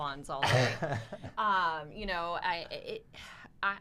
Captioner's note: laughs